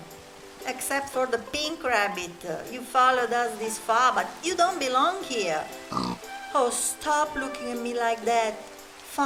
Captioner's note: grunts